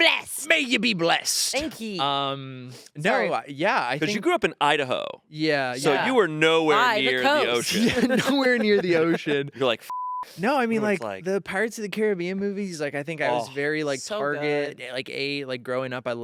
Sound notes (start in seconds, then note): 9.8 beep